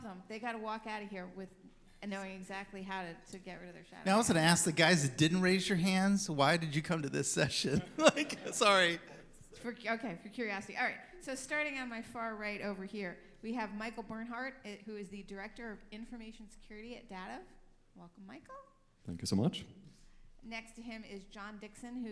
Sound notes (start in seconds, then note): 6.8 chuckles